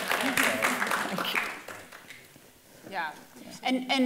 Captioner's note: applauding